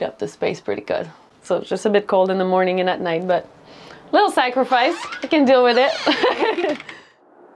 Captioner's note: laughter